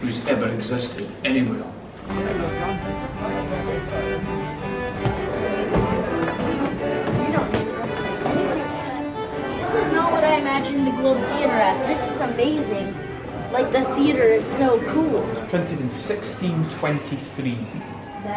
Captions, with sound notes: who's ever existed anywhere. (medieval music) (crowd chattering) - This is not what I imagined the Globe Theater as. This is amazing. Like the theater is so cool. - It's printed in 1623.